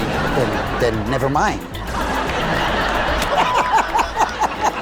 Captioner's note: laughing; audience laughing